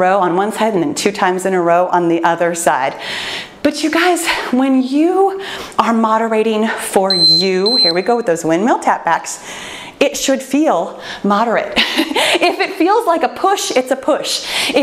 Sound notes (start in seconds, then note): 7.1 timer beeping; 11.8 laughs